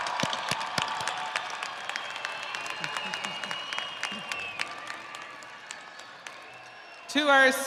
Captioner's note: audience applauding; audience cheering